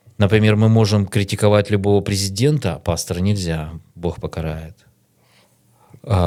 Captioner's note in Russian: none